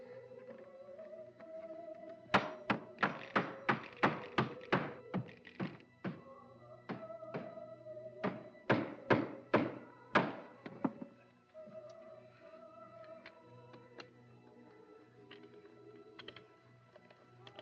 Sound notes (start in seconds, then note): 2.3 hammer banging